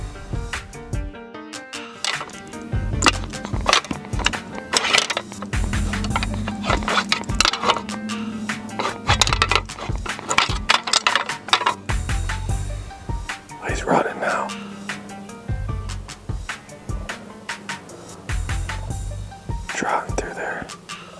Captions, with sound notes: (upbeat music) (antlers clanking) He's running now. Just ran through there.